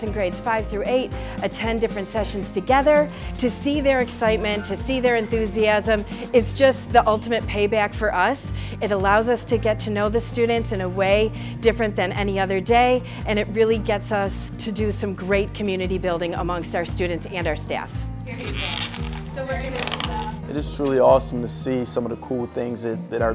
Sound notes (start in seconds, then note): 18.3 balloon animal squeaks